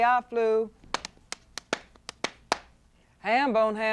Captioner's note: rhythmic clapping